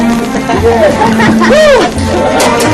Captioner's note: hoots